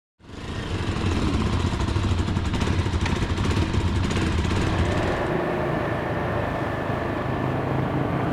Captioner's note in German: Motorengeräusch